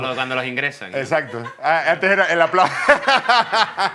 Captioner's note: laughs